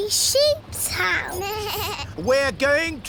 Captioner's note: suzy bleats